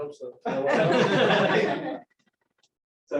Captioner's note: laughter